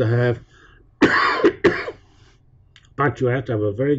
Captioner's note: cough